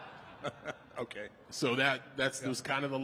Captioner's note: The Undertaker and Michelle laughing; laughing